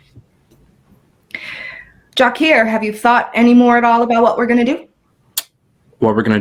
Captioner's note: sighs